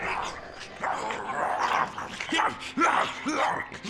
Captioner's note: zombie growling